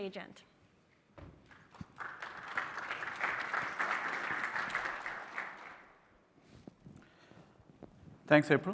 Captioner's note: applause